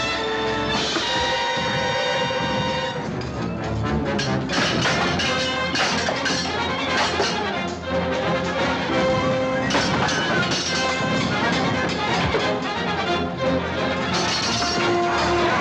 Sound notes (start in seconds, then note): none